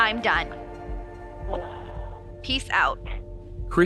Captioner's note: sigh